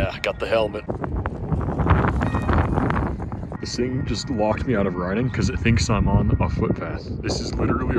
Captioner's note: whoooooooosh